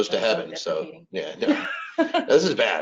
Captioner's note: laughs